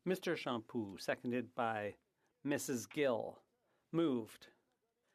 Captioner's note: speaking French